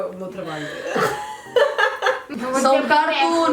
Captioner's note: laughs